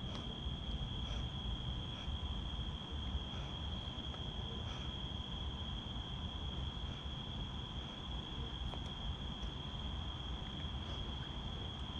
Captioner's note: cicadas screaming in the night air